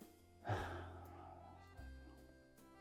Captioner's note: Johnny sighs; downbeat music